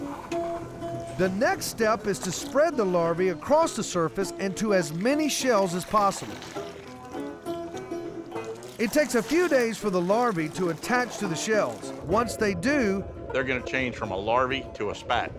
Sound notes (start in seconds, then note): 7.7 pouring, splashing